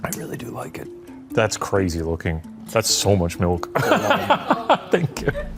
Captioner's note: laughs